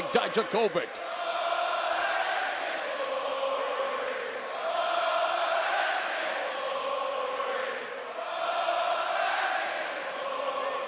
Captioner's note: crowd chattering